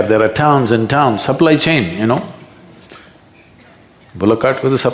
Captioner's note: laughs